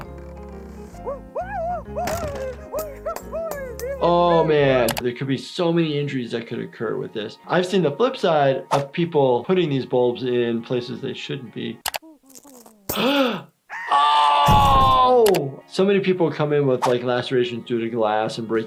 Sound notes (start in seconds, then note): 1.0 Handy yelping; 1.1 soft ambient music; 4.8 keyboard clicking; 11.9 light bulb shatters; 12.0 gasps; 14.4 handy falling